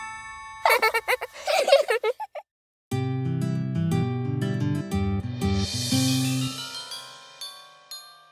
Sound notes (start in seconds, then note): 0.6 kids giggling; 2.9 happy music